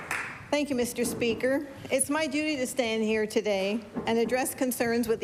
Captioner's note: applause